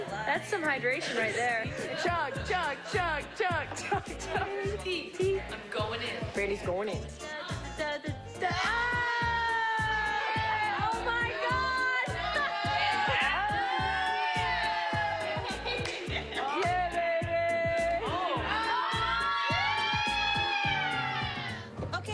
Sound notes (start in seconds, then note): 5.9 laughter